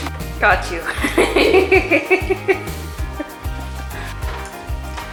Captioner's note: laughs